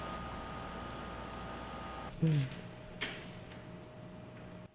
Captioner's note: machine humming